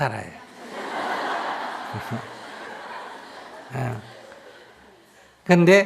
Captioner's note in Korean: 청중웃음